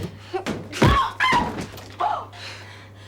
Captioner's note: screams